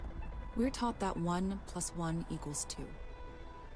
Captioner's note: voiceover